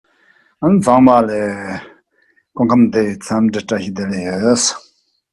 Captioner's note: speaking in a foreign language